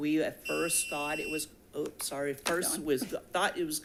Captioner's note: device buzzing